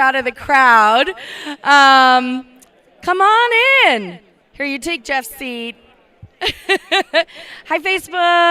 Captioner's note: laugh